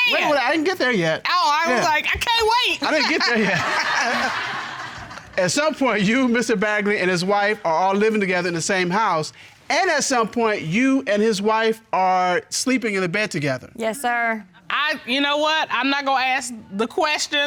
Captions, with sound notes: And-- wait, well, I didn't get there yet. -Oh, I was like, "I can't wait!" -I didn't get there yet. -[chuckles] -[audience laughing] At some point, you, Mr. Baggarly, and his wife are all living together in the same house, and at some point, you and his wife are sleeping in the bed together? Yes, sir. You know what? I'm not gonna ask the question